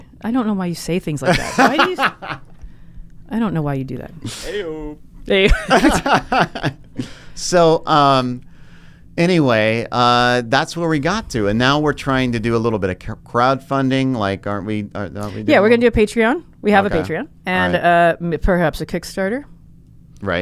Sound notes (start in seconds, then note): 1.2 laughing; 5.4 both laughing